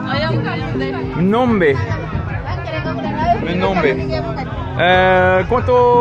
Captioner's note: people speaking foreign language